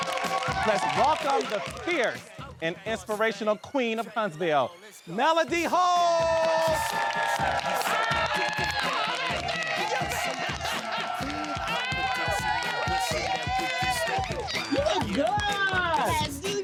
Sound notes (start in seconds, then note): 5.7 audience applauding; 10.4 laughs